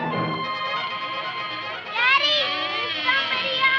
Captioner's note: door squeaking